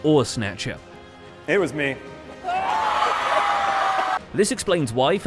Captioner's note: crowd cheers